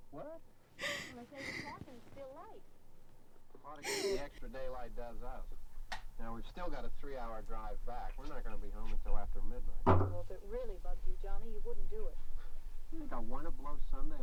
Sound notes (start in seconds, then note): 0.8 Gabby sobbing